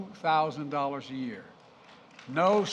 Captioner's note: applause